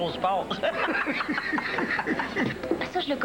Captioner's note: Rires